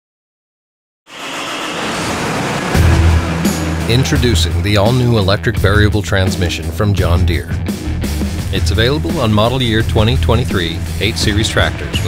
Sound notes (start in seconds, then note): 1.1 tractor engine revving; 2.8 upbeat music